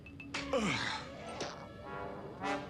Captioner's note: groans